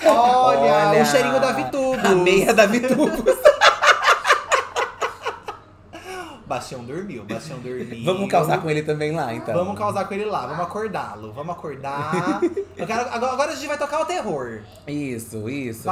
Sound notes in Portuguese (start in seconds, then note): 2.9 gargalhadas